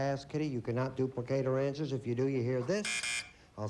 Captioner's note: buzz buzz